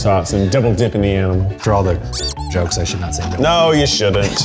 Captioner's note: squeak